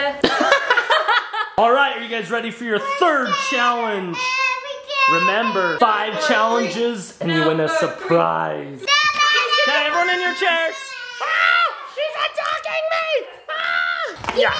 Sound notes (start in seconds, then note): 0.2 laughing; 8.9 yelling